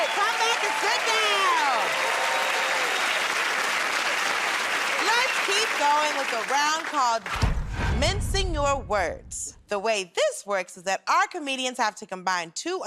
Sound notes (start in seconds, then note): 2.3 cheers and applause